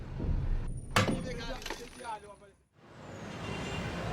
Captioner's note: hammer thuds